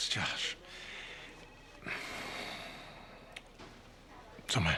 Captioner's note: sighs